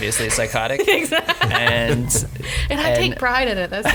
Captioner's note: laughing